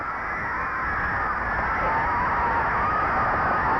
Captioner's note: crowd cheering